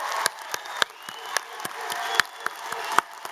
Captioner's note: applause